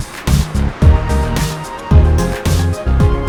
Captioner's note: heartbeat